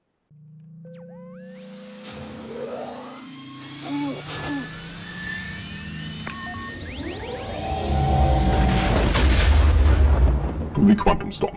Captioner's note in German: Millennium Falcon Triebwerksgeräusche